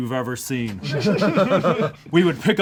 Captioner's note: group laughs